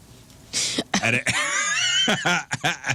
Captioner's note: laughing